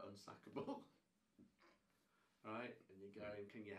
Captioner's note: laughing